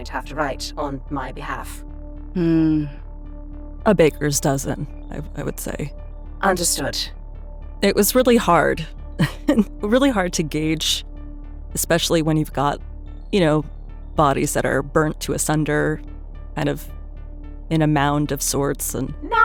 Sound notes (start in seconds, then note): 9.2 chuckles